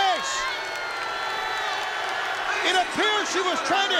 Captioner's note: crowd boos